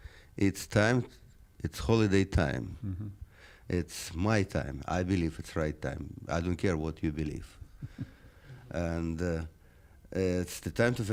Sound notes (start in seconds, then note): 8.2 laughs